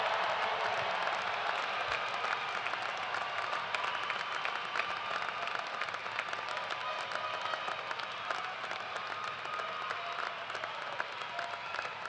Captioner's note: cheers and applause